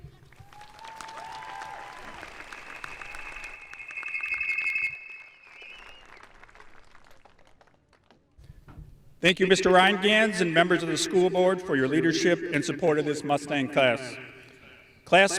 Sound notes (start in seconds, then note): 0.0 audience applauding; 0.3 audience cheering